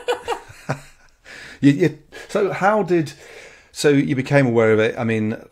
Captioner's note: laughs